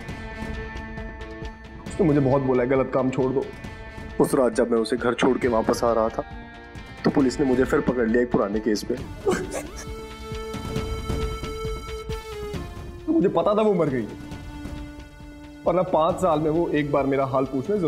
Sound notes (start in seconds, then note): 9.1 Ashfaq cries